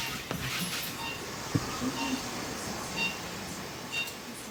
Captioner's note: heart monitor beeps